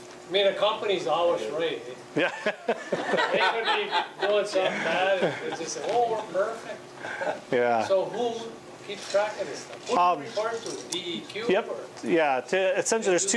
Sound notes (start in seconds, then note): 2.2 laughter covers voice; 2.2 laughing